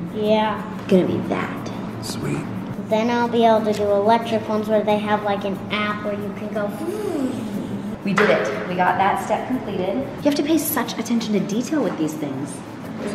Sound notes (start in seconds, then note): 6.9 imitates motor whirring